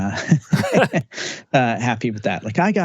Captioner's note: both laughing